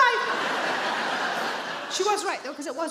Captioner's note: audience laughs